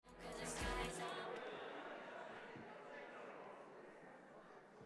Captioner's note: audience chattering